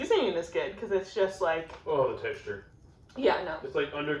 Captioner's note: shuddering